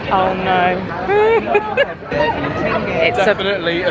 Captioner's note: laughing